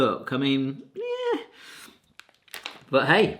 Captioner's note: squealing